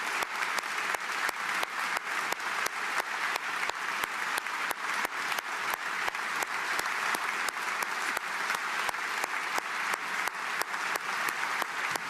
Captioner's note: applause